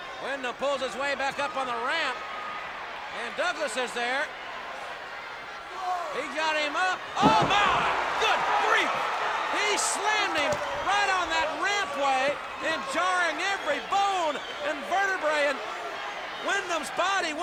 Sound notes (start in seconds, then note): 8.8 audience cheers